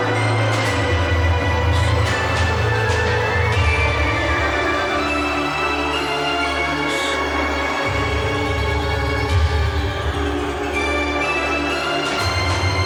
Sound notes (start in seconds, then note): 1.8 Marlee gasps; 6.9 Marlee gasps; 7.8 muffled shrieking over tense, menacing orchestral music